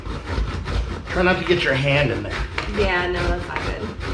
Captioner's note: grating sounds